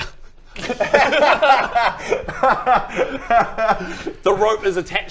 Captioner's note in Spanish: Risa irónica